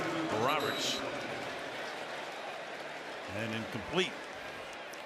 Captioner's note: whistle